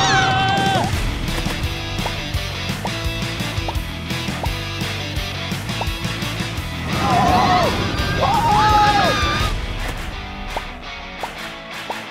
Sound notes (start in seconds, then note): 0.9 upbeat music; 6.8 riders screaming